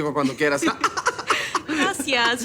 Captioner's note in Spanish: Risas